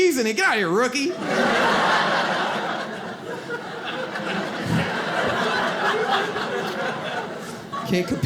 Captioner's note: audience laughs